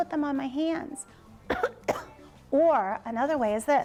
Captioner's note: coughs